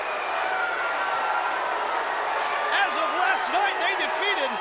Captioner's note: crowd cheering